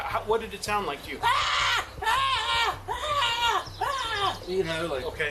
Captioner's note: yelling